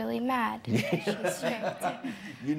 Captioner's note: judge laughs